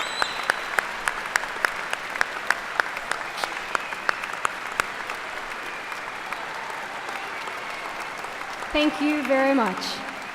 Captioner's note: applause